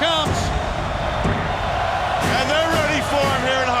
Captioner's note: crowd cheering